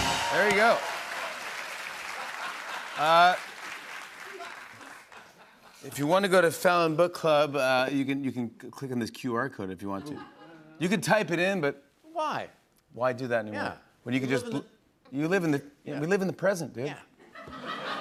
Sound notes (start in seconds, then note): 1.6 applause